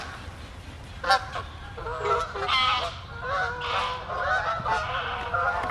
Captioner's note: honking intensifies